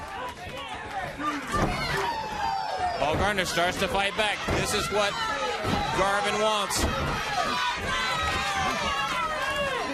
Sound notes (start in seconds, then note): 0.0 crowd cheering